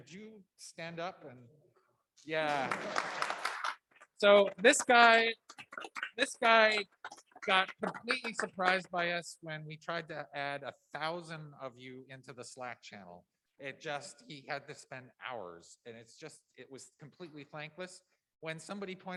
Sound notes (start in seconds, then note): 7.5 applause